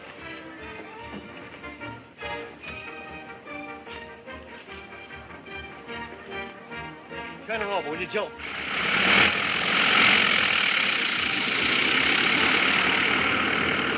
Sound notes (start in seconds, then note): 0.2 lively band music; 8.4 airplane motor whirring